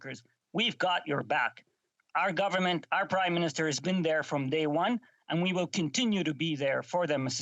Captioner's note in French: voix de l'interprète